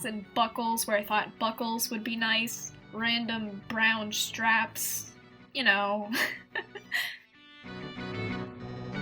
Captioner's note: laughs